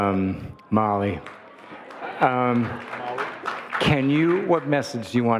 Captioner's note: audience laughing and applauding